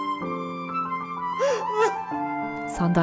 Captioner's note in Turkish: Ağlama sesi